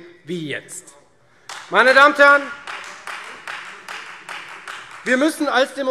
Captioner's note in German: Beifall Freie Demokraten